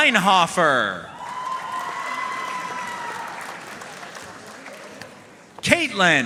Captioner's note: audience cheering and applauding